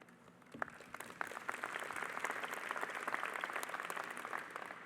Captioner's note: audience applauding